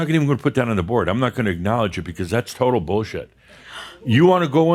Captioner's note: softly gasps